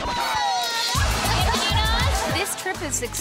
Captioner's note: women exclaiming